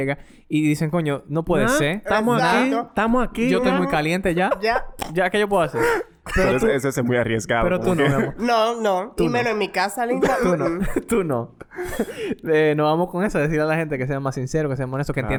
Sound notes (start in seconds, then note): 3.4 laughs; 10.0 laughs